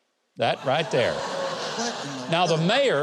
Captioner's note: audience laughs